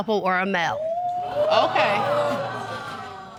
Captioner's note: audience gasping